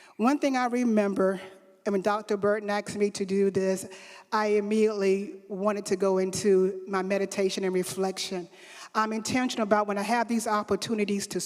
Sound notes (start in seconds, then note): none